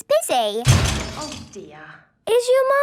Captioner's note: crash!